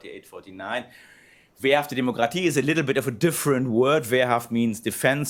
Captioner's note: non-english speech